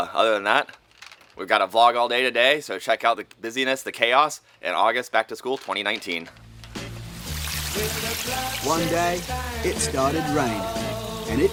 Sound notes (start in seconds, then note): 6.4 melancholy music; 6.9 rain dripping